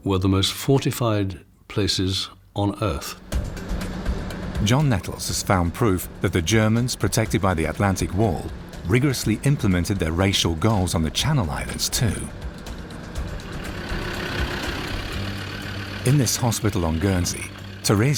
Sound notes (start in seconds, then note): 3.4 intense music; 13.7 car engine rumbling